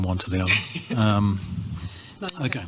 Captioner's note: laughs